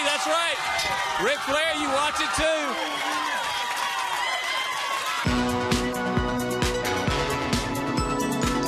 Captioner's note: bell ringing